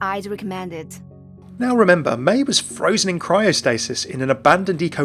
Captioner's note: voiceover